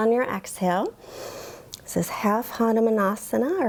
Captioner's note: inhales